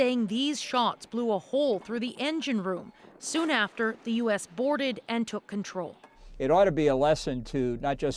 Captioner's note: shots